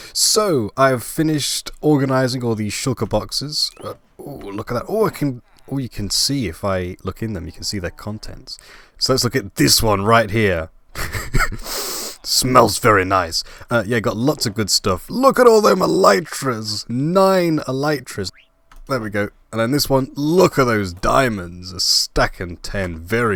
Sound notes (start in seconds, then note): 10.9 laugh; 11.6 sniff